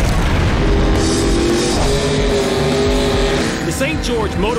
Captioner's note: engines revving